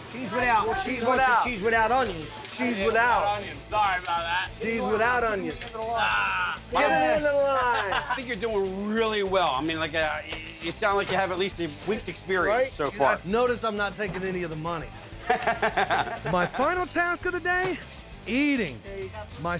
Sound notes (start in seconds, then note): 15.1 chuckling